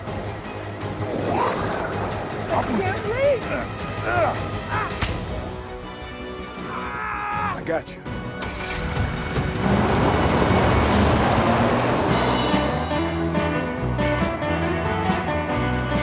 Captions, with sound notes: I can't reach! (Chef grunts) (Tector yells) - I got you. (tires skidding) (energetic music)